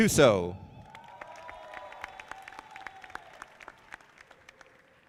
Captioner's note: audience applauding